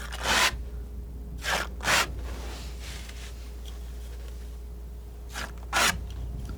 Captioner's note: scratching